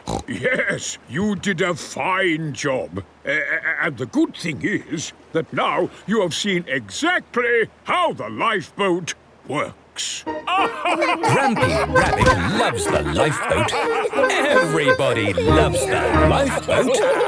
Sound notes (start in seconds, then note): 10.4 all laugh